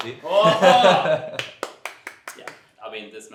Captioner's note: claps